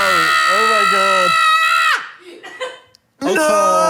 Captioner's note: screaming